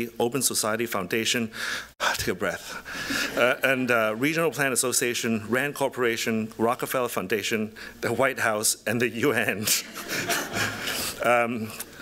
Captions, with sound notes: Open Society Foundation-- [sigh] take a breath-- [laughter] --and Regional Plan Association, Rand Corporation, Rockefeller Foundation, the White House, and the UN. [laughter]